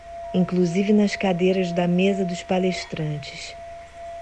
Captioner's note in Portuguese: none